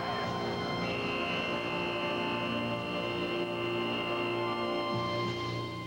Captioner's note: buzzer